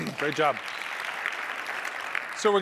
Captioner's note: applause